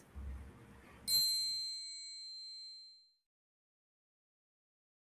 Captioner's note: bell ringing